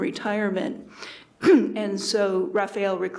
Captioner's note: clears throat